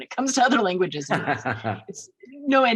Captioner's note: laughs